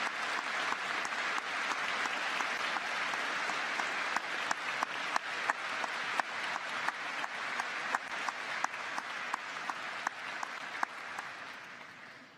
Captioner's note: applause